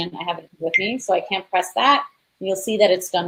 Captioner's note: beep